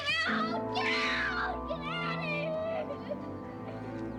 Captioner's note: laughs